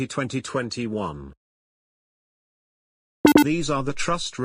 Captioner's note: computerised beep sound